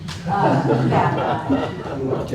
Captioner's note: laughter